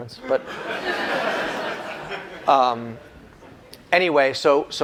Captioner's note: laughter